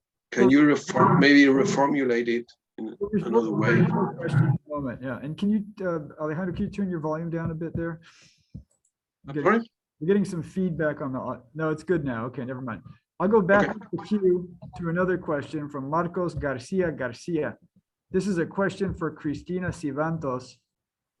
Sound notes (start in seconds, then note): 4.4 mic feedback